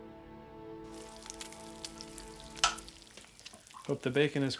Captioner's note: bacon sizzling